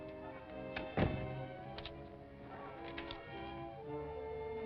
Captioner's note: footsteps; door shuts; suspenseful music